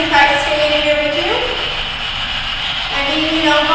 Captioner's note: static buzzing